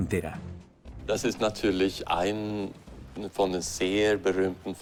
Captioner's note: German spoken audio